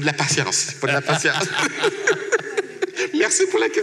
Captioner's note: laughs